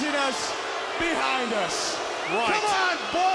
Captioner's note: audience booing